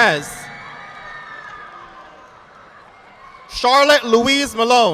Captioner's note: audience clapping